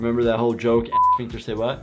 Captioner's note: beep